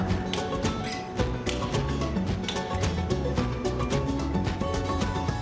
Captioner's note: clunking continues